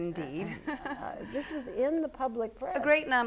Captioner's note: laugh